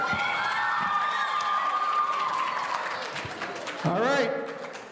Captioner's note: audience cheering